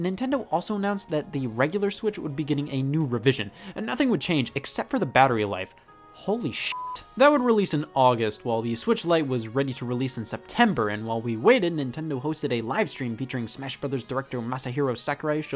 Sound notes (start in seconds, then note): 6.7 beep